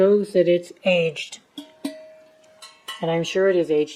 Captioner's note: tap tap, thunk, thunk